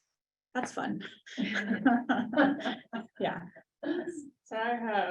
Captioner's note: group laughing